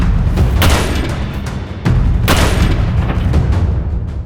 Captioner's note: gun fires